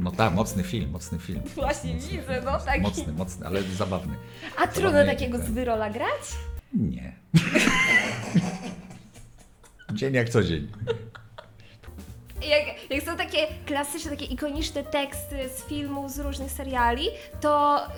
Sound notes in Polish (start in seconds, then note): 7.3 śmiech